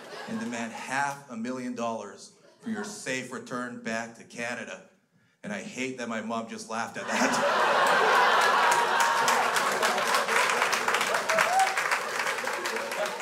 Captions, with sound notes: and demand half a million dollars for your safe return back to Canada." And I hate that my mom just laughed at that. (crowd laughs)